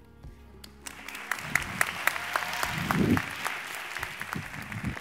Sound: audience applauds

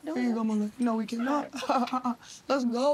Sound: laughs

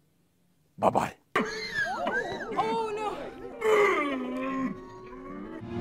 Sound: choking sounds

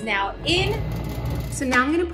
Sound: ice cream maker churns

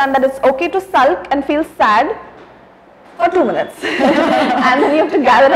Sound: laughs and smiles

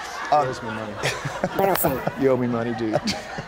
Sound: laughter

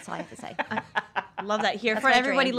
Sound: laughing

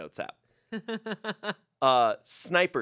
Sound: laughs

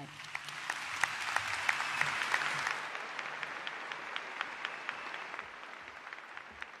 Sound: applause

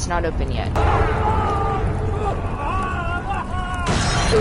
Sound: screaming sounds

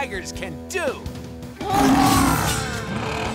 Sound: growling

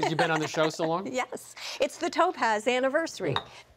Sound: chuckling

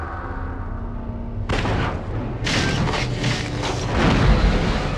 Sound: dramatic sounds; digitized landslide sounds

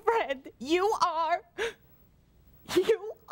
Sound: sobs

